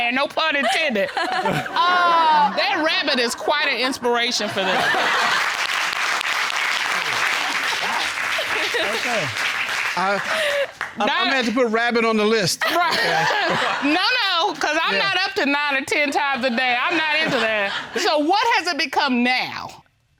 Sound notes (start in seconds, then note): 0.7 chuckles; 4.5 all laugh, applaud; 7.0 chuckles; 12.7 chuckles